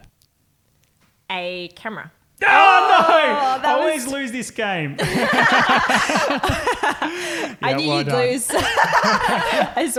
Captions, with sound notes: - A camera. - Oh, no! - Oh, no! I always lose this game. (laughing) - I knew you'd lose. - Yeah, well done. (laughing)